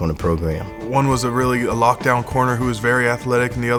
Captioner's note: voiceover